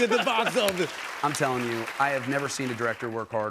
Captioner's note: normal voice